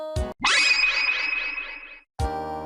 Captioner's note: teleportation FX